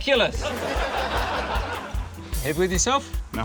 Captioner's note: laughter